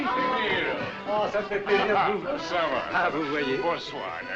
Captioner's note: French